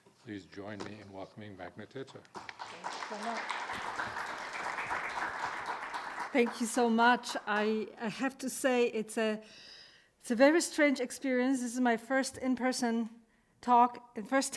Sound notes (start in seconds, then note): 2.2 audience clapping